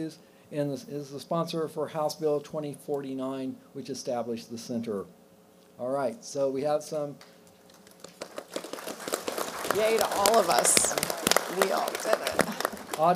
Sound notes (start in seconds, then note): 7.7 applause